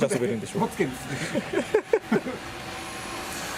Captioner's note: laughs